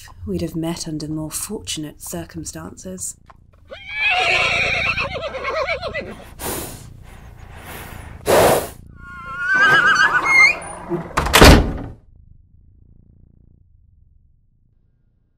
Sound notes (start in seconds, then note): 3.6 loud whinny; 6.0 heavy breathing; 9.0 desperate whinny; 9.1 door creaks open; 10.1 door slams shut